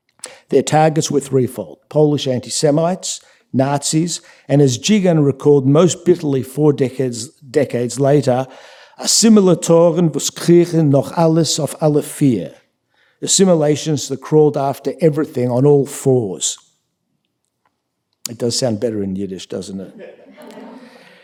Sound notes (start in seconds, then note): 8.9 speaking yiddish